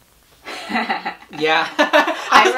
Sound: laughs

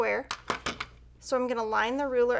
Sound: objects clattering

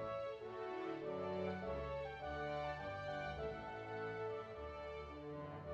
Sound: none

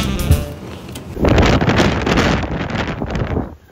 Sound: really Loud wind noises

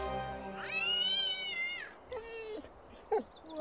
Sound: meowing; dog whimpering

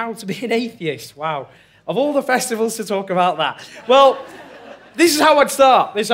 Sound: laughter

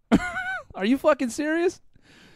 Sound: laughs

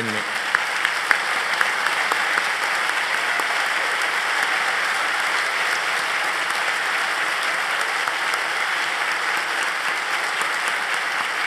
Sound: applause

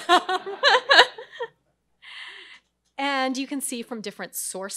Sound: crowd laughs

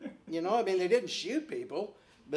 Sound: laughing

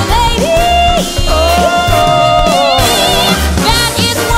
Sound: ooh~

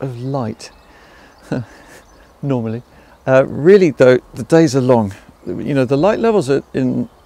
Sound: chuckles

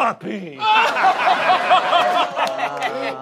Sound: laughs

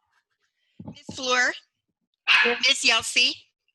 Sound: dog barking

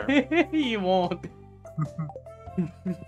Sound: laughs

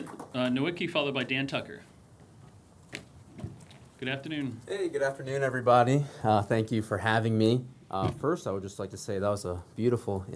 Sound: applause

